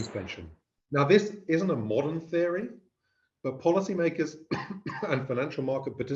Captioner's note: cough